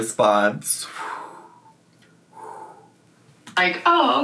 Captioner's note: taking calming breaths